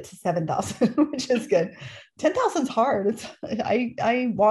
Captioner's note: laughter